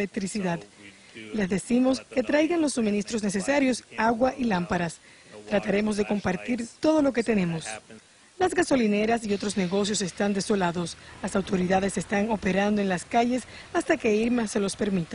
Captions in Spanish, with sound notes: OTROS SIMPLEMENTE CERRARA. [HABLA EN INGÉS] LES DEJAMOS SABER QUE POSIBLEMENTE NO TENDÁN ELECTRICIDAD, LE DECIMOS QUE TRAIGA LOS SUMINISTROS NECESARIOS, AGUA Y ÁMPARAS. TRATAREMOS DE COMPARTIR TODO LO QUE TENEMOS.